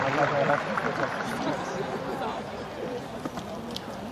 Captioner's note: applause